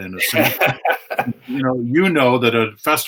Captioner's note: both laughing